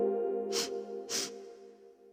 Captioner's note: sniffs